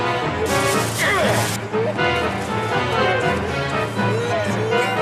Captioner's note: screaming & yelling